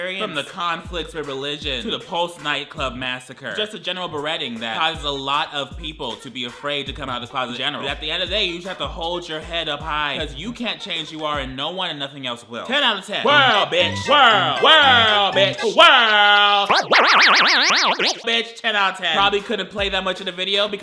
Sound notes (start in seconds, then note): 13.3 lively circus music; 16.6 tape whirs